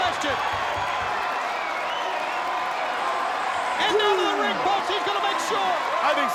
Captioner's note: applause